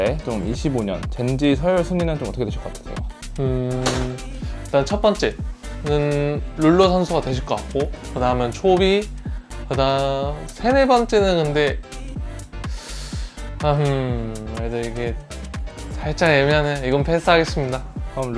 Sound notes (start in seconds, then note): 12.6 inhales